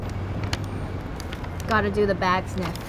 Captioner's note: bag crinkling